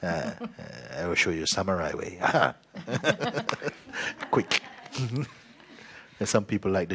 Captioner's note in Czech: smích; smích